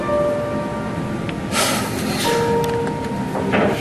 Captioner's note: exhales sharply